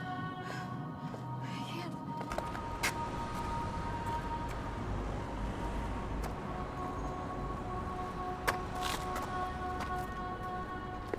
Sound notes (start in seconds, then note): 5.5 footsteps scrape